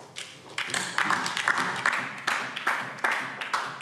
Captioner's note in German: Beifall DIE LINKE